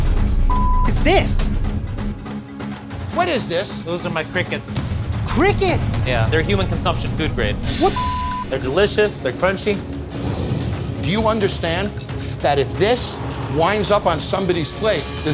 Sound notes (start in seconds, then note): 0.4 beep; 7.8 beep